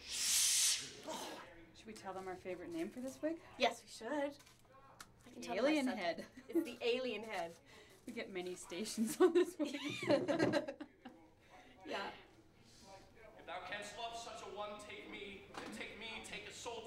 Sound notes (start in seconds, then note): 12.5 laughing